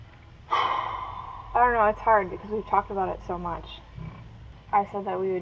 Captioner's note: sighing